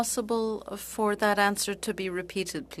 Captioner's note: speaking French